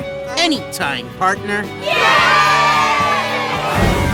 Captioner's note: cheer